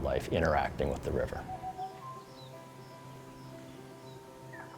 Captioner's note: sound- African bird call